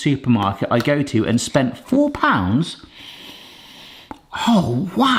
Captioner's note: inhales deeply